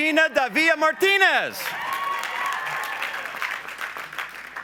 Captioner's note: applause